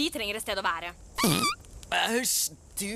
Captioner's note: owen farts